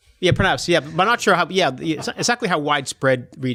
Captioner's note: laughs